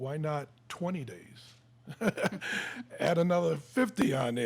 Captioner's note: laughing